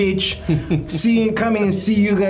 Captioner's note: chuckling